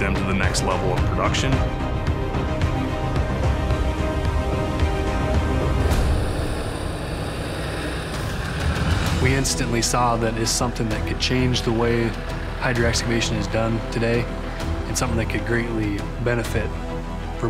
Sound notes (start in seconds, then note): 2.3 intense music; 6.2 truck engine running